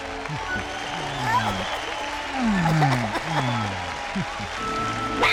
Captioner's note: la multitud aplaude